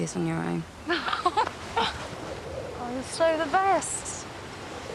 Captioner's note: chuckles